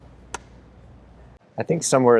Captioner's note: clapper board clapping